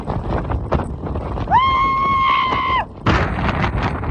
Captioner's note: wind